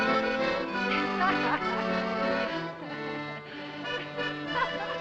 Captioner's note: woman Laughing